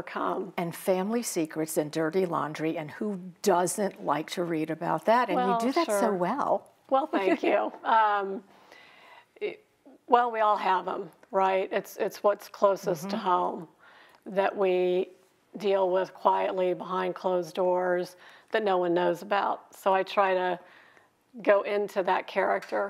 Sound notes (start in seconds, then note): 6.6 chuckling